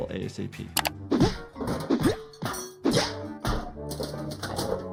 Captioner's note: traps clattering